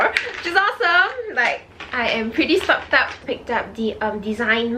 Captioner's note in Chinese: 哈哈哈！